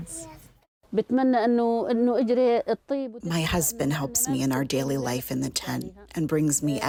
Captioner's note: through translator